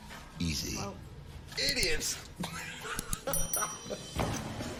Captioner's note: laughs